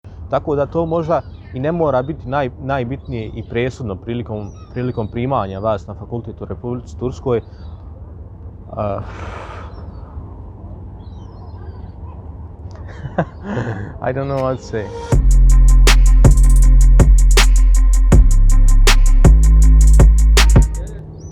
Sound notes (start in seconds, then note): 9.0 sighs